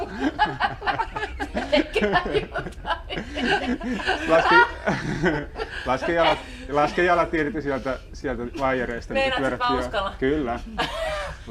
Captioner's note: laughter